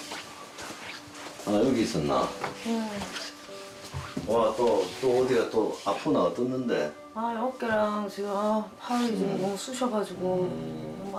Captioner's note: voiceover